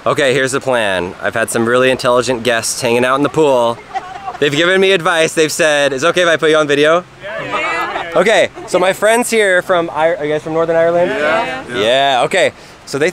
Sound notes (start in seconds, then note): 7.2 laughing